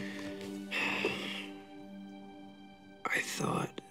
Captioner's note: sighs